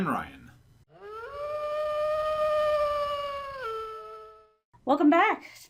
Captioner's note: distant wolf howl